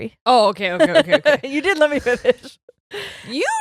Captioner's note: laughing